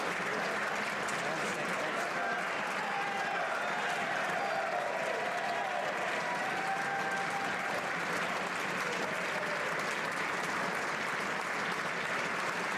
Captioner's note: applause